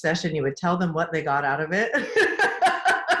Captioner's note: laughs